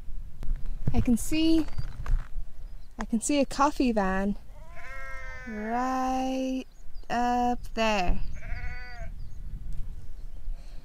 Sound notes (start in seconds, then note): 4.5 sheep bleat in celebration